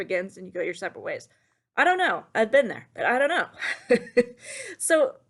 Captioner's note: laughs ruefully